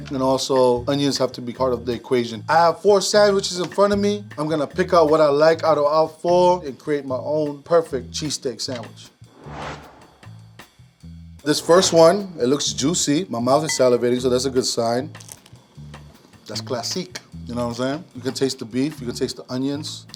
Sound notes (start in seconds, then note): 9.6 jazzy music; 15.2 bread crunching